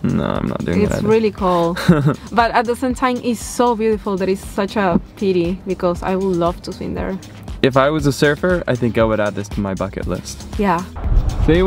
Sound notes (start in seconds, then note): 1.7 chuckles